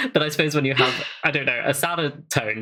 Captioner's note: laughs